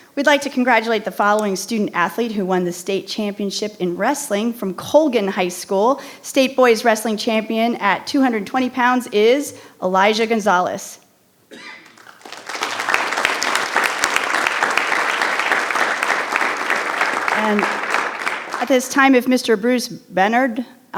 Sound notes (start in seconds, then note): 11.5 coughing; 11.8 audience applause